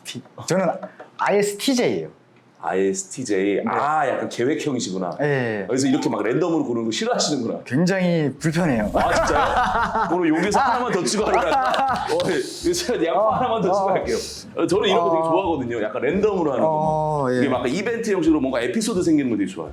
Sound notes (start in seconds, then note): 5.9 random sparkle sound